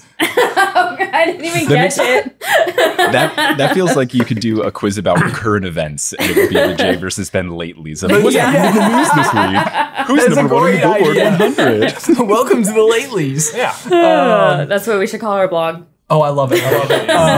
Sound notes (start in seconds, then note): 0.2 laughing; 5.1 clearing his throat; 8.1 everyone laughing; 13.9 sighing